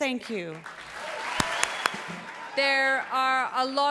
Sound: audience cheering

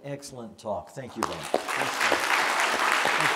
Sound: applause

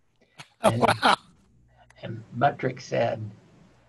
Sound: laughing

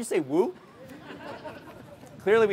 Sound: crowd laughs

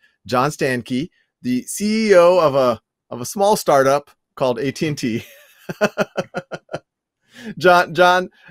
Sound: laughter

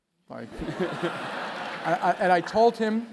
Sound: laugh

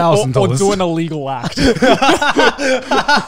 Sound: laughing

